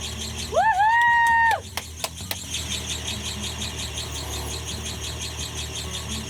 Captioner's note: clapping